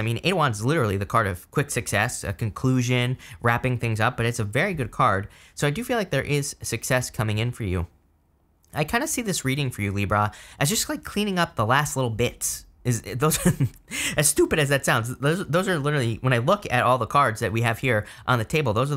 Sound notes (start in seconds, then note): 13.2 narrator laughing